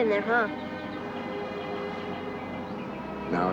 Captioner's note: birds singing